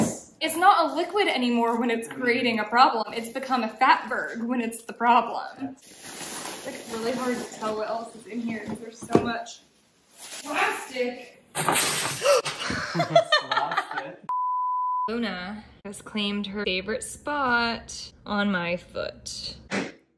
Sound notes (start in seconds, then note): 12.5 laughs; 19.9 making noise in the kitchen